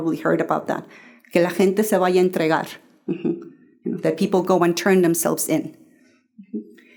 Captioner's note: Spanish